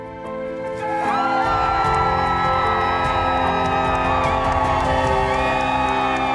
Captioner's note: uplifting music; healthcare workers cheer